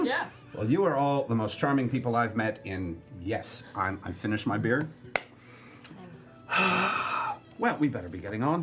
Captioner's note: sighs